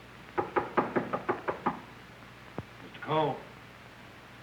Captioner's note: knocking